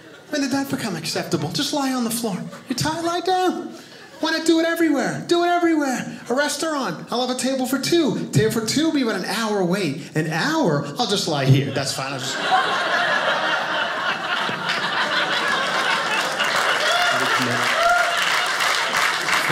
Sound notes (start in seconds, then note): 11.6 audience laughing; 14.0 audience applauding